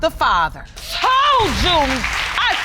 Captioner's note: applause